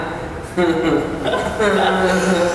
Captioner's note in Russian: смеются